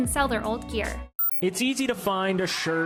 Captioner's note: robotic tinging